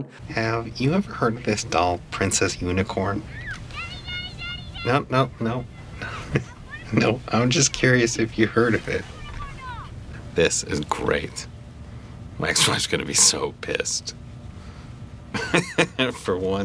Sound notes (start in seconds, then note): 3.2 daughter screams into phone with excitement